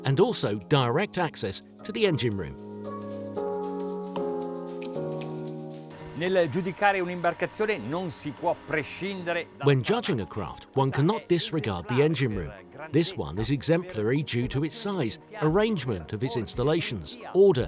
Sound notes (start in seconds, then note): 6.4 speaking in a foreign language